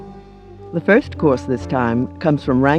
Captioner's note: lively jazz music; voiceover